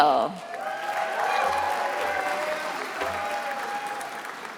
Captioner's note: attendees applauding